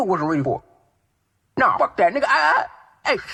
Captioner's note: stuttering